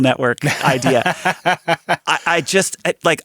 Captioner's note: laughing